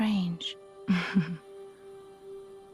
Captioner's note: chuckle